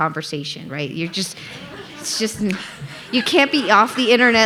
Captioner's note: audience laughing